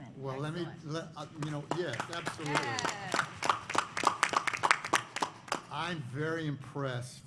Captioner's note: applause